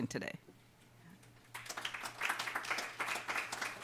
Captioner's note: clapping